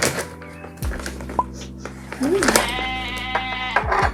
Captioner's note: sniff sniff